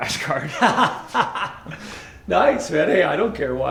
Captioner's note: laughs